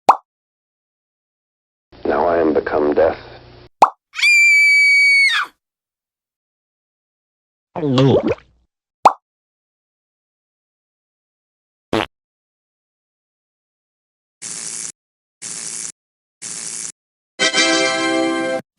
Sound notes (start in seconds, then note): 4.1 scream; 7.8 gulp; 11.9 fart; 14.5 zapping; 17.4 fanfare